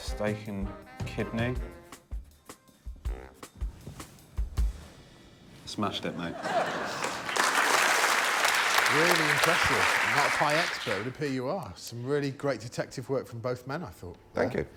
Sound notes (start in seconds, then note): 6.2 laughter; 6.7 applause